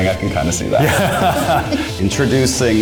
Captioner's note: laughs